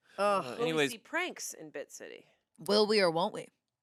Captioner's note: none